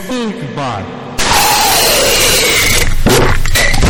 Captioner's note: aggresive Slurping; drops Cup